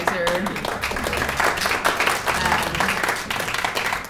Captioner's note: applause